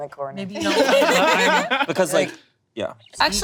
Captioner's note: group laughing